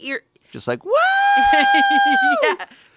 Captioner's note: chuckles